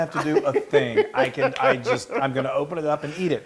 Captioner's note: laugh